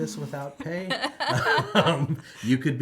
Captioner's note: both laugh